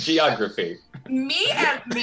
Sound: giggles

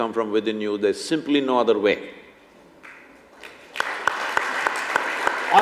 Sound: applause

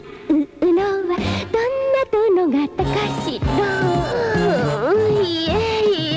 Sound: long and sensual sigh

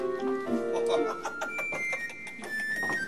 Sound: laughter

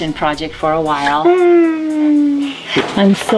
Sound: sad whine

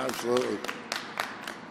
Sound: applause

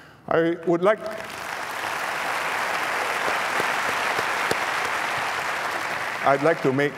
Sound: applause

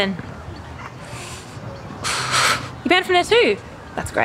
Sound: Heidi inhales and exhales

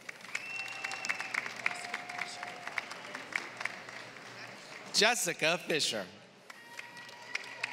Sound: applause; applause

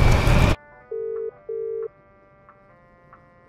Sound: phone waiting

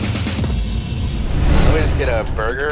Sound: scene whooshing

